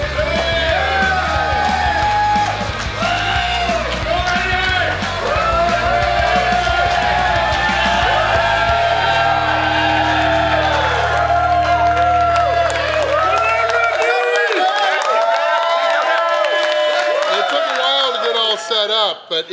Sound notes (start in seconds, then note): 0.6 crowd applauding; 0.6 crowd cheering